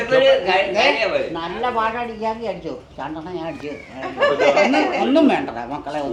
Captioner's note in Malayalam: പൊട്ടിച്ചിരി